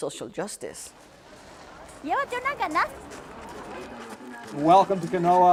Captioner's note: foreign language